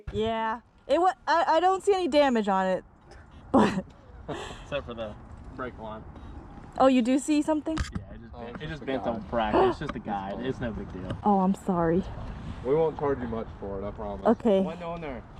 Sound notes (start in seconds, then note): 9.5 gasping